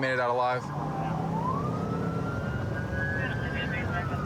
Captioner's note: police sirens blaring; dispatch chatter